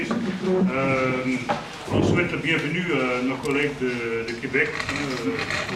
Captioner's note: speaking foreign language